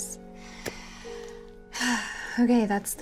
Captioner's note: sighs